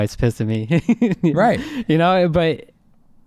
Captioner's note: laughing